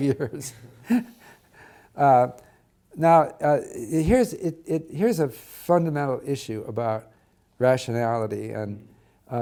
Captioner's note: laugh